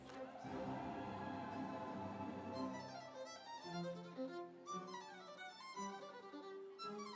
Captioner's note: audience cheering; instrumental music